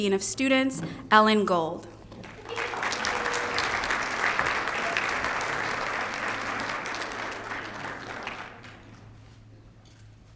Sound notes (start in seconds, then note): 2.1 applause